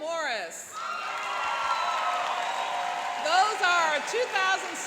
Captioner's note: cheering and applauding